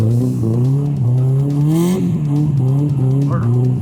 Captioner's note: laughing